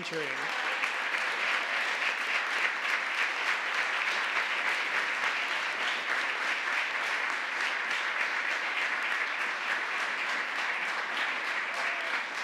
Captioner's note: applause